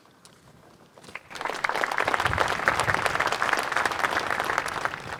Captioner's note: crowd applauds